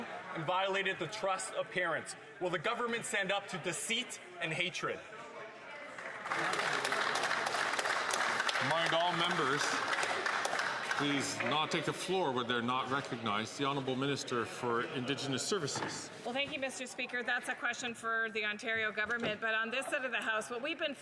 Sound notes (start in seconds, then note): 12.4 some Applause